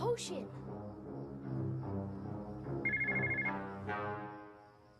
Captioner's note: phone ringing